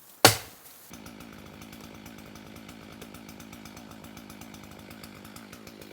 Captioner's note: power saw engine revving